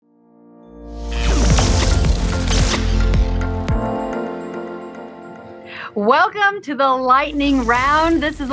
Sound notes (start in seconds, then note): 1.0 intense electric sound; 2.4 upbeat music